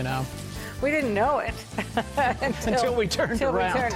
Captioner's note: laughs